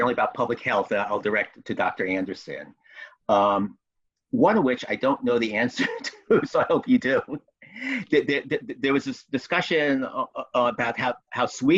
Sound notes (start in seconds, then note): 5.7 chuckles